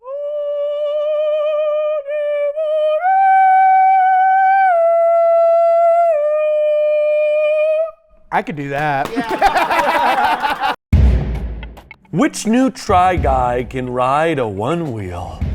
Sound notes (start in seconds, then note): 8.7 all laughing; 11.0 dramatic music